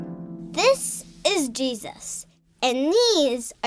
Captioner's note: harp strumming; voiceover